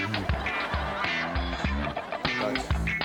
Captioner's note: audience laughs; jazzy guitar music